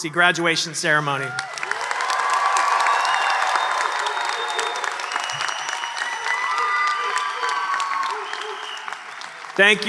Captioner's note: applause and cheers